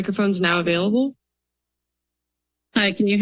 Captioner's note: silence